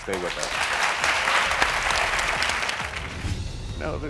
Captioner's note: crowd clapping